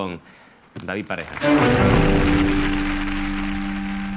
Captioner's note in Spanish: Aplausos